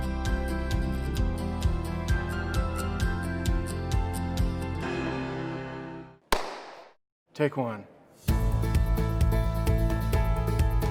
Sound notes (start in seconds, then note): 6.3 hands clap